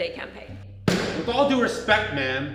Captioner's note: table slam